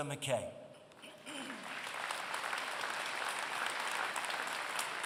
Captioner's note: applause